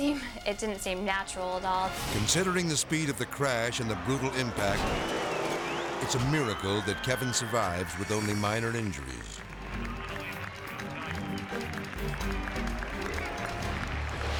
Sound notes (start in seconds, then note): 4.8 bike slams; 6.2 spectators scream; 6.8 hands clapping